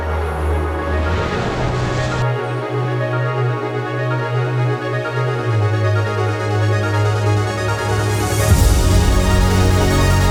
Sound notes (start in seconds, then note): 0.7 truck roars; 6.2 intense inspirational music